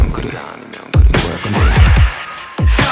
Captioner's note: talking